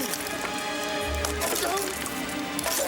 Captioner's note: suspenseful music; grunting